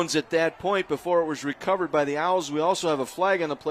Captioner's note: applause